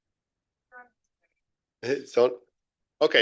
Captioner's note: audio cuts out